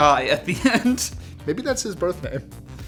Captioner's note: laughing